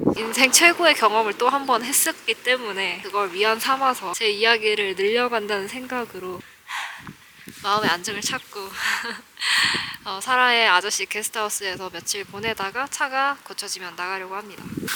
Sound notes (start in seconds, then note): 6.7 deep breath.. heh